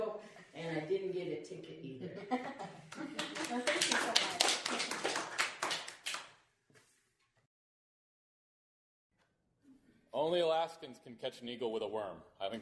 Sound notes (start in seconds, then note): 2.0 laughter; 2.9 applause